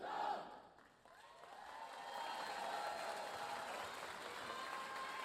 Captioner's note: audience cheering